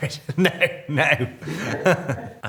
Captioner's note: Robert and interviewer laughing; Robert laughing